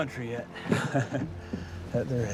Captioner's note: boone chuckles